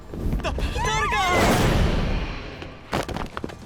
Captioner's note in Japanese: 叫び声